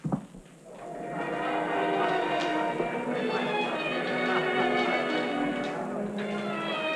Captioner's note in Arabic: ثرثرة خفيفة; موسيقى أوركسترالية رائعة